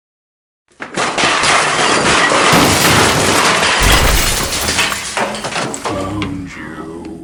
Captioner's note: the table flips over as glass and chairs crash and shatter